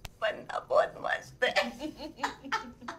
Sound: both giggling

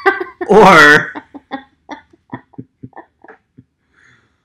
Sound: both laughing

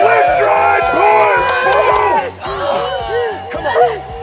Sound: kids groaning

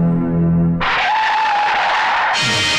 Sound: tire Screeching

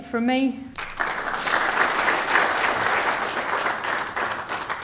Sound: applause

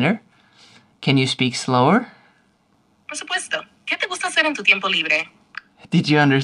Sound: speaking fast in Spanish

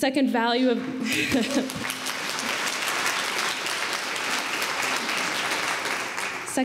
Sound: applause

